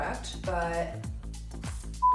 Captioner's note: beep